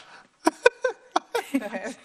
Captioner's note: laughs